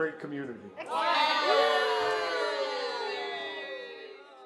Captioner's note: all cheer